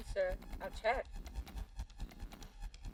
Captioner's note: keyboard clicking